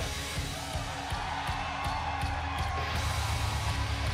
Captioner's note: crowd cheering